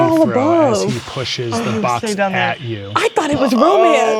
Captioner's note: speaking quietly